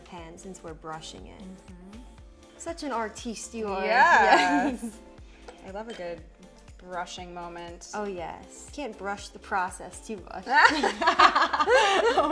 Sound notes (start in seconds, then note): 4.2 chuckling; 10.5 both laughing